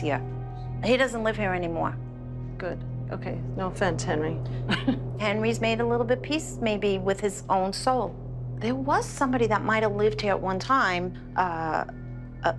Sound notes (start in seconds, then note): 4.6 chuckles